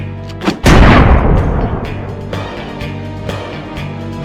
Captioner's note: gun firing